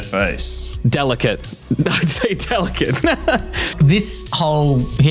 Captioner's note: laughing